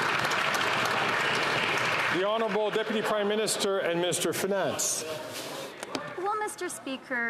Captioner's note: some Applause